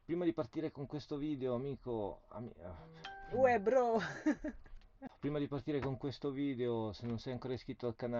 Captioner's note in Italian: risate